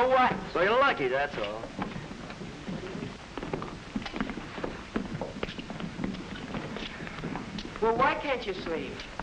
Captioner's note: sounds of men leaving the room, walking out into the hall